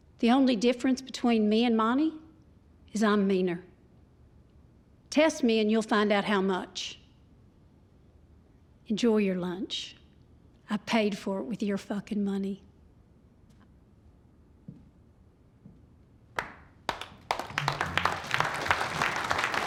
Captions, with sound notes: The only difference between me and Monty is I'm meaner. Test me and you'll find out how much. Enjoy your lunch. I paid for it with your fucking money. [APPLAUSE]